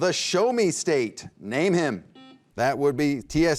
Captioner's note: beep